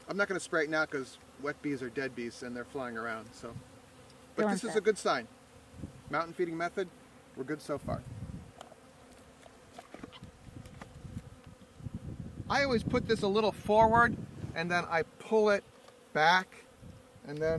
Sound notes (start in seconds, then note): 9.3 bees buzzing